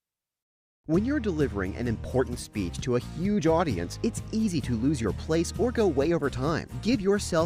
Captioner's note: voiceover